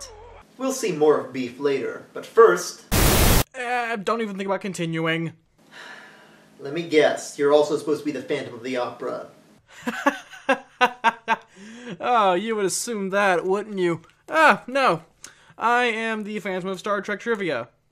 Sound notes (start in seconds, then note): 5.7 sigh; 9.5 laughs